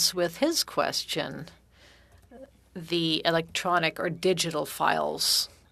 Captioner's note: speaking French